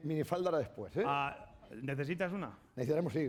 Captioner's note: speaking spanish